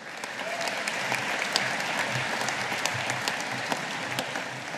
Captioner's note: audience applauding